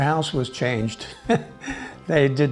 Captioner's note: laughing